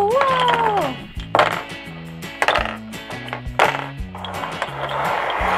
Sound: plastic clanking

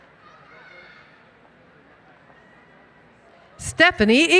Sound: cheering

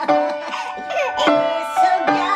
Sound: family members laughing

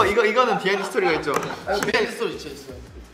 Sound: cracking up

